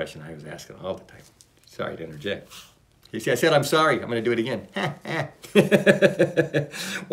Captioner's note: laughs